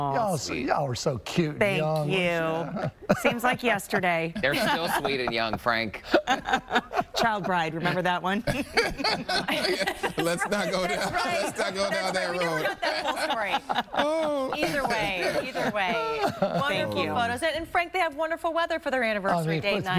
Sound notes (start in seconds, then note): 12.7 laughter